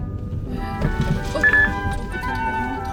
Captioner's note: thump thump